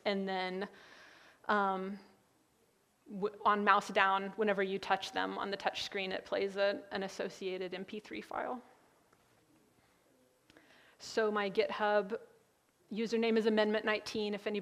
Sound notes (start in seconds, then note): none